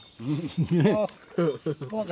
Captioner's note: laughter